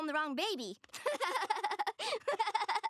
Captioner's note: laughing